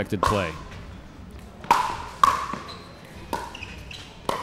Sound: ball bouncing

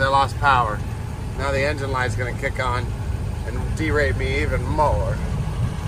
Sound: engine

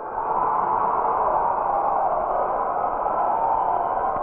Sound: cheering

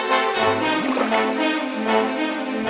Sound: bubbling sound

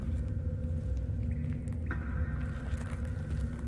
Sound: water drops falling

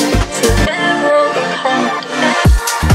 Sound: cut-up vocalising

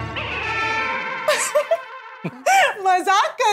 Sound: laughing

